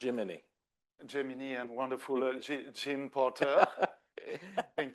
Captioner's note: laughs; everybody laughs